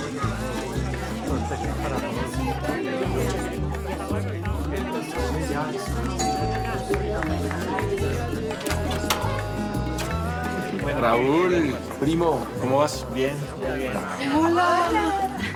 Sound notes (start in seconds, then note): 6.2 doorbell rings; 8.5 door opens